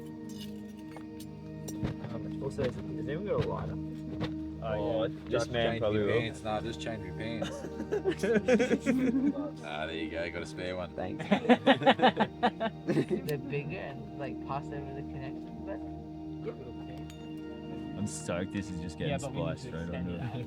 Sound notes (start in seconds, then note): 7.3 laughter